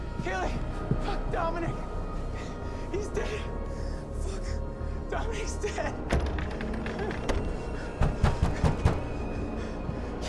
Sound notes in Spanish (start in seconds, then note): 6.2 Jadeando